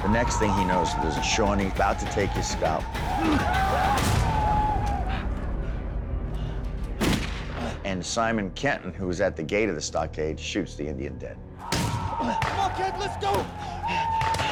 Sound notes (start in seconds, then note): 3.0 screaming, gunfire